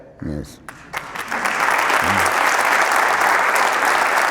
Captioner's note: applause